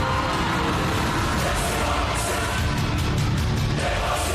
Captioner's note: crowd cheering, applauding